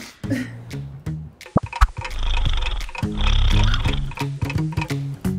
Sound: clock ticking

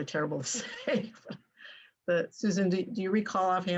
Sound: laughter

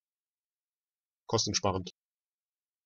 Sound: fast Pronunciation

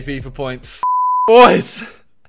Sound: beep

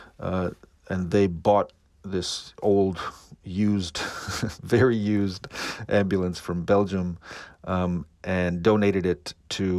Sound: laughter

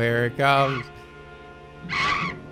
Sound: bat shrieks

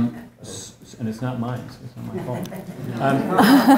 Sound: laugh

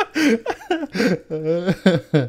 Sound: laughing

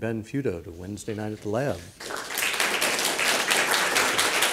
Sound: audience applauds

